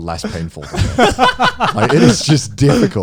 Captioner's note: both laughing